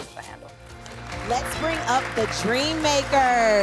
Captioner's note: audience applauds